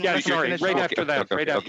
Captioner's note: speaking French